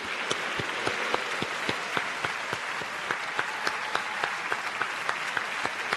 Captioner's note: audience cheers and applauds